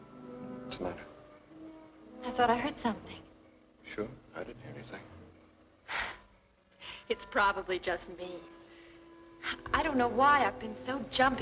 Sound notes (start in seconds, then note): 5.5 exhales sharply